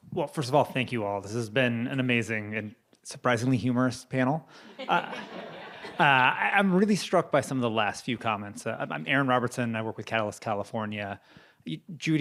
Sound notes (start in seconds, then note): 4.7 audience laughing